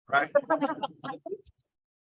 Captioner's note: laughs